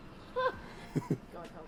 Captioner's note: laugh